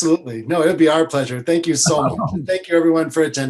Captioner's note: laughs